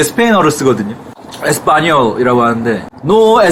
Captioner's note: Spanish